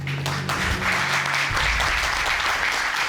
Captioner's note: audience applauding